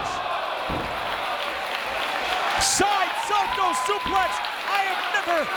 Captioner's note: applause